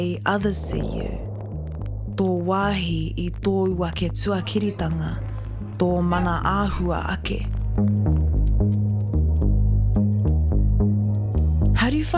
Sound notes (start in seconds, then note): 4.7 slow distorted speaking